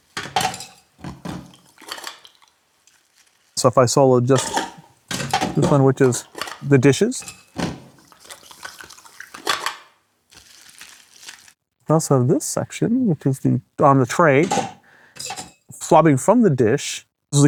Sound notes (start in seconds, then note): 0.0 medical tools clacking; 8.3 swab scraping and clacking; 9.3 medical tools clacking; 10.3 swab and goop swishing